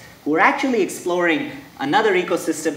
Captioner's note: none